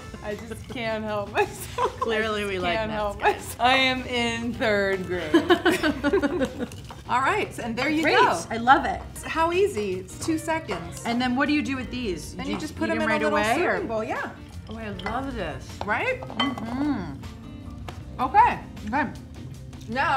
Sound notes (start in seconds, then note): 5.4 laughs